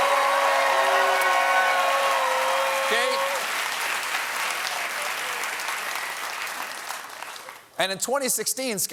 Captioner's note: cheers and applause